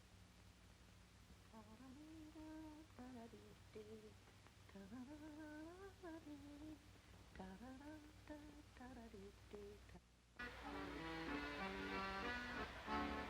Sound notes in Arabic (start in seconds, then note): 1.5 طنين; 10.4 يعزف على الأكورديون